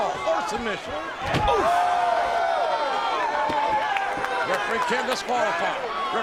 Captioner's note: head thuds